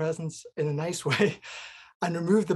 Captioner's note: chuckles